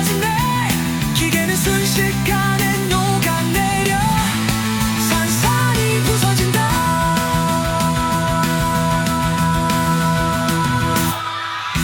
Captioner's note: aaah!